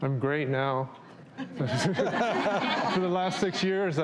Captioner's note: everyone laughs